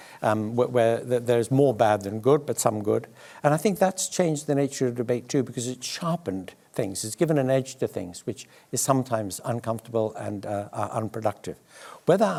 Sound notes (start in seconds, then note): none